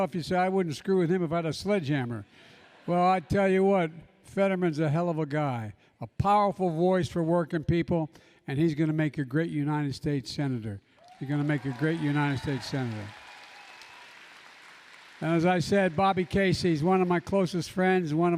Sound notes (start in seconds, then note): 2.5 laughter; 13.6 applause